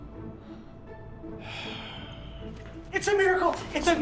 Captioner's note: sighs